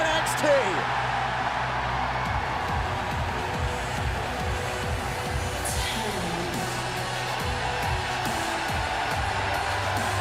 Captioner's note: cheers and applause